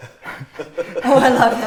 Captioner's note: laughs